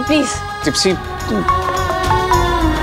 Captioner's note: Phone ringing